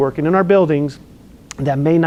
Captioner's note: lip smacks